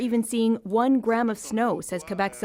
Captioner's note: speaking French